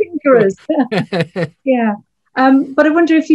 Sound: all laughing; laughs

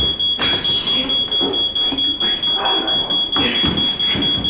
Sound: Dave groaning

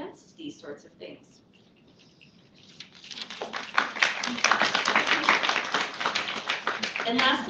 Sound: applause

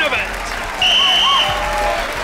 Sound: whistling

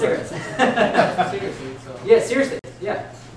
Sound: laughter

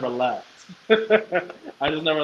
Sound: laughs

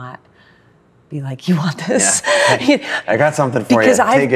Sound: laughs

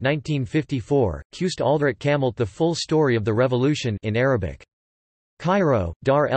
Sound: in Arabic

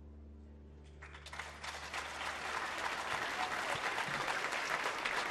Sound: audience applauding

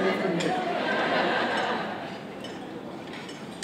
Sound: laughter

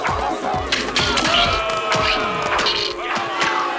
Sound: booing

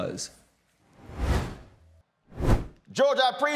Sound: whooshes

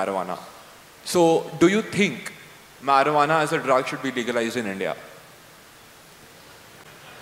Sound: laughter

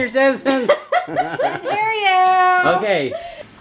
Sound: laughs

